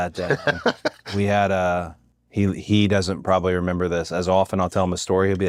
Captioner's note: laugh